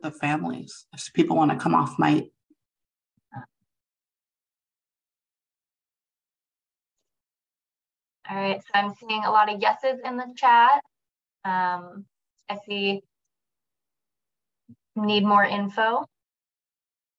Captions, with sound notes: with the families, people want to come off mic... [silence] - All right. I'm seeing a lot of yeses in the chat. I see "Need more info."